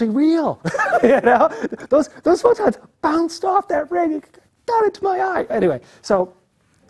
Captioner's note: laugh